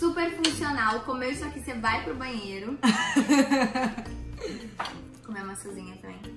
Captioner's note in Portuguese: risos